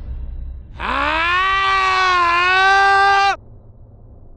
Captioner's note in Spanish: grita